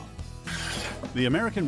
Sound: logo scrapes

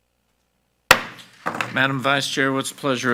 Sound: gavel bangs

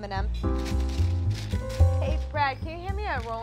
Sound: wax paper crinkling

